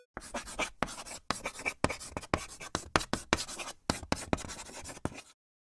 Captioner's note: sound of chalk on a blackboard